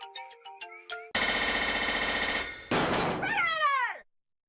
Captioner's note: riveting in metal